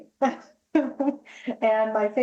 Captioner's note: laughs